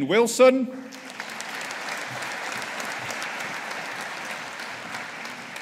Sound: audience applauding

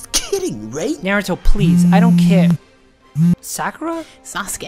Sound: phone buzzing

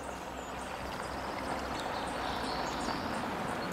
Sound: sound of car pulling up

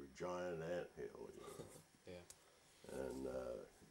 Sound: chuckles

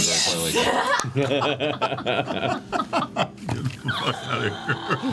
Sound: all laugh

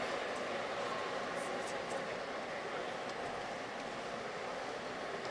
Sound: people chattering distantly

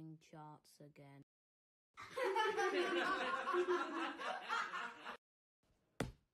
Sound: laughter Track

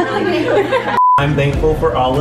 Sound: laughter; beep

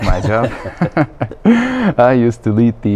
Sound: laughing

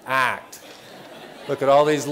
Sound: laughter

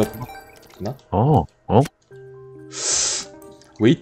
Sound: villager sounds

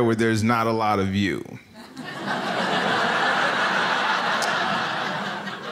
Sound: audience laughs

